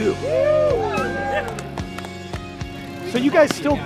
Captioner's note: all cheering